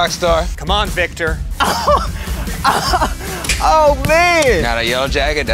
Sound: laugh

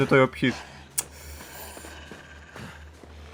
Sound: hisses like a snake

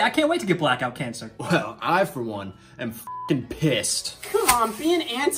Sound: beep

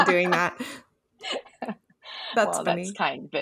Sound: laughs

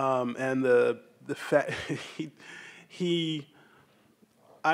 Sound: laughs

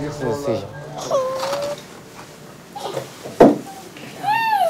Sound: whimpering

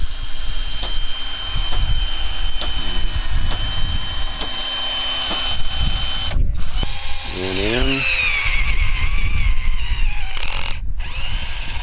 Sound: drill whirring

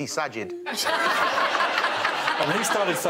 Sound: all laughing

